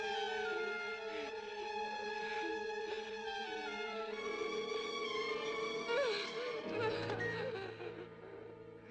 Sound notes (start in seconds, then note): 5.8 sobbing